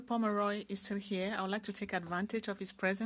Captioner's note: speaking FRENCH